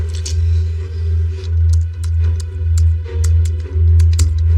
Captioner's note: typing